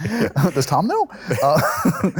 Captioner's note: laughter